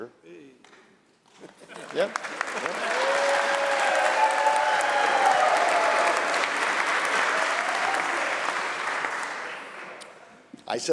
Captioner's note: applause